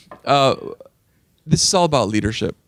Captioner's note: laughing